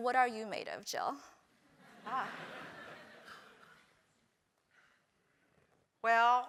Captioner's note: laugh